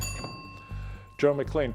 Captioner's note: bell ringing